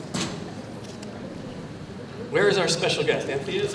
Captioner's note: background conversation